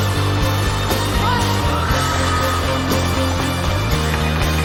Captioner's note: crowd screaming